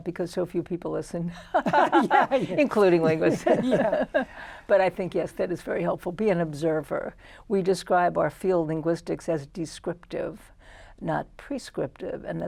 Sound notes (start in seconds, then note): 1.4 laughter